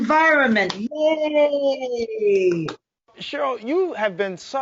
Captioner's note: applauds